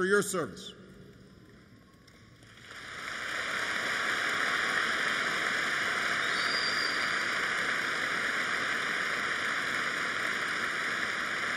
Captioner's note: applause